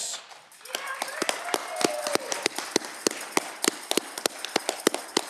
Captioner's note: audience cheering